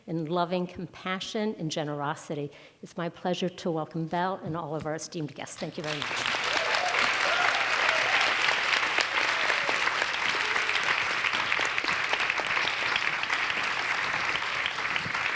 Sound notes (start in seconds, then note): 5.8 audience applauds; 5.8 audience cheers